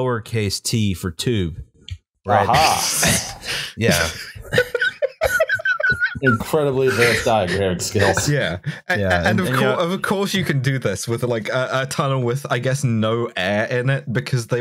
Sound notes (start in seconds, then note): 3.7 derisive laughter; 3.9 laughter